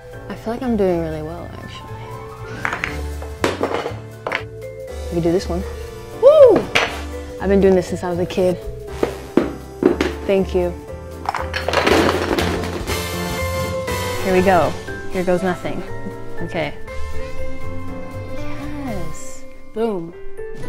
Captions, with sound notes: I feel like I'm doing really well, actually. I can do this one. Woo! I've been doing this since I was a kid. Thank you. [clattering] Here we go. Here goes nothing. Okay. Yes. Boom.